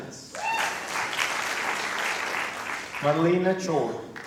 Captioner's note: applause